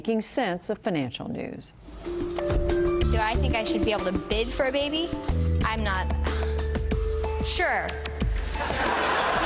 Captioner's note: laughter